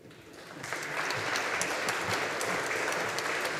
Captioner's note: audience applauding